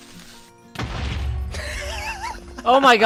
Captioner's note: creeper sizzle, explosion; giggling